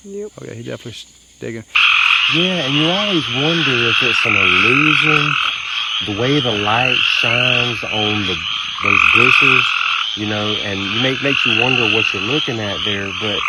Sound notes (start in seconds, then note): 2.0 crickets chirping